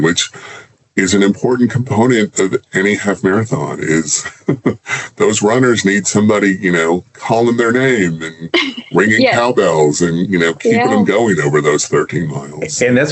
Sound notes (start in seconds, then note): 4.1 chuckles